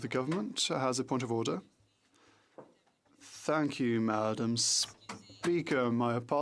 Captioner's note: speaking French